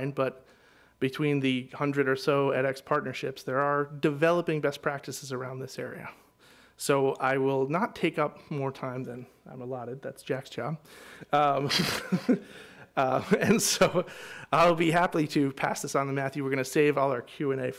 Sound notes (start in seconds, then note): 11.6 laughs